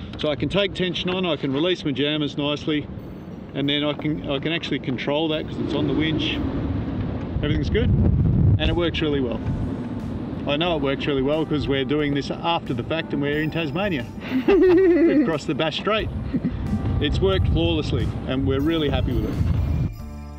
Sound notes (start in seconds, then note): 10.3 upbeat music; 14.3 laughs